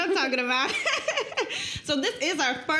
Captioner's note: laughing